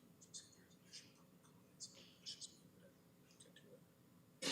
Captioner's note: comments off mic